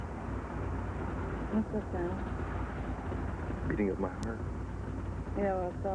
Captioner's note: rattling noise